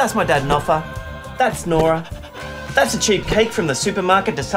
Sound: loud horn; upbeat music

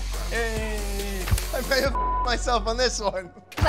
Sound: beep

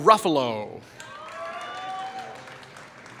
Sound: applause

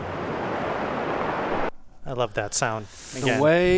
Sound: water rushing

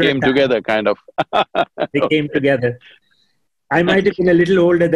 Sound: laughs

